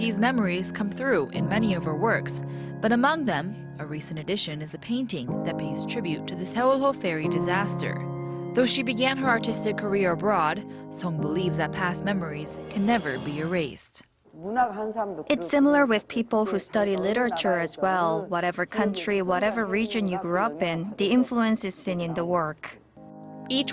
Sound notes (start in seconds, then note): 14.2 korean